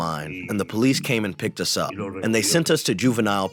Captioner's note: through translator